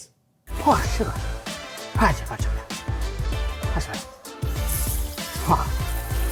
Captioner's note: upbeat music; vocalising; slurping; water sloshes